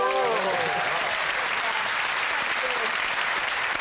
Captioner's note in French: applaudissements